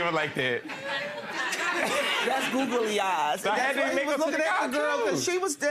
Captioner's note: audience laughing